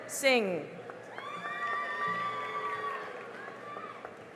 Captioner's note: cheering and applause